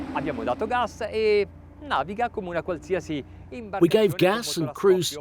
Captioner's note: speaks in foreign language